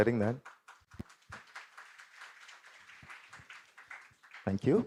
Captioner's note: applause